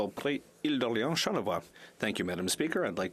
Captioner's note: speaking French